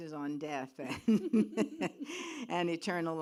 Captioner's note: laughs